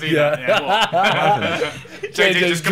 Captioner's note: laughing